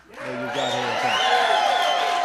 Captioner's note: applause